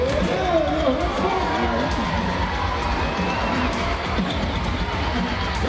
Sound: crowd cheering and roaring

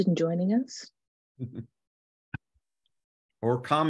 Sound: panelist chuckles

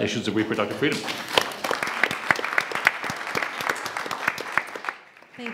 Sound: audience applauds

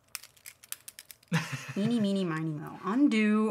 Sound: laughing

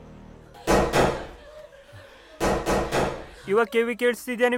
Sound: sighs

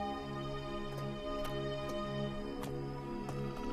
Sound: footsteps

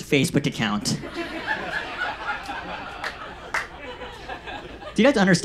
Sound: audience laughs

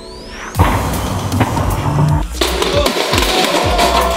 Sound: banging

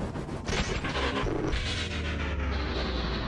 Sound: static

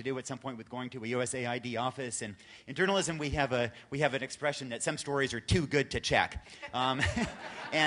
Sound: laughter

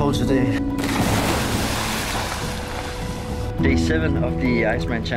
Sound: water splash

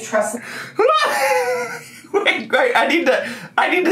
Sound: laughing

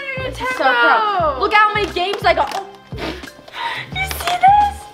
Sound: laughs

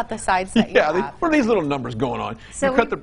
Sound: laughs

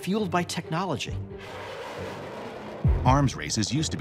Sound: missile blasting

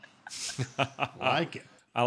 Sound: laughter

